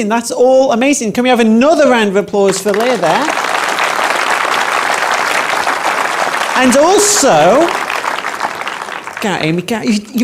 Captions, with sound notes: That's all amazing. Can we have another round of applause for Lea, there? (audience applauds) And also, get it Amy, get it.